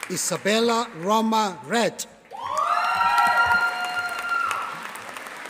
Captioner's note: audience applauding